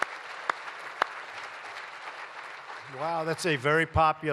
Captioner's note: applause